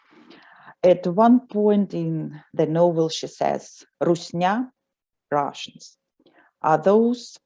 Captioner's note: russian